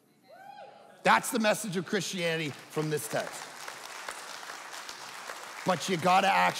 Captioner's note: audience clapping